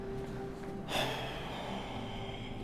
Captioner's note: sigh